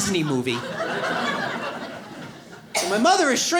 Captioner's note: audience laughs